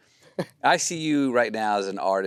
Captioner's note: Timothée laughs